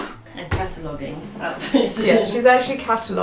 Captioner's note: laughs